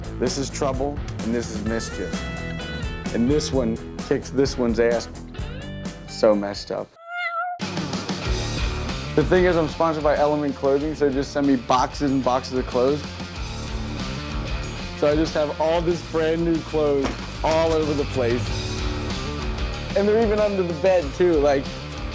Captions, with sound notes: This is Trouble and this is Mischief. And this one kicks this one's ass. So messed up. (cat meowing) The thing is, I'm sponsored my Element clothing so they just send me boxes and boxes of clothes. So I just have all these brand new clothes, all over the place. And they're even under the bed too like,